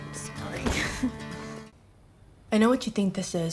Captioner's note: chuckles